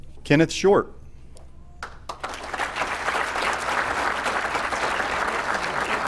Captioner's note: applause